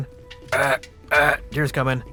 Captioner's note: shitty deer grunts